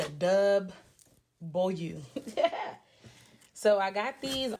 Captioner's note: loughs